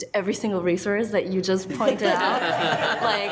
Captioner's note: attendees laughing